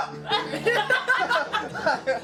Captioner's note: laughter